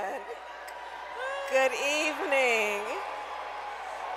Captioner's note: applause